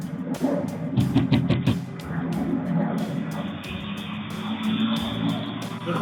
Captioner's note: door knocks